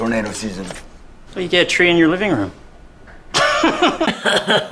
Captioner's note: laughs